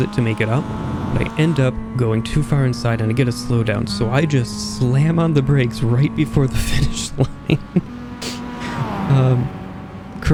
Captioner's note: laughing